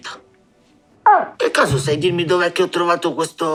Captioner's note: chirps